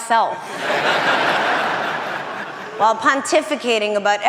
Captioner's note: audience laughing